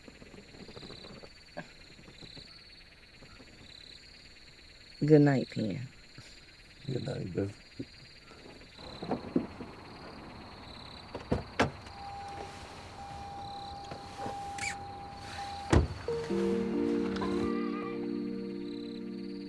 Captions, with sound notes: Good night, Penn. - Good night, babe. (car beeping) (door closes) (soft music)